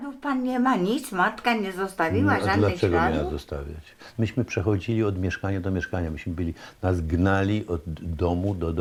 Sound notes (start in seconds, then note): 0.1 woman speaking Polish; 1.8 answering in Polish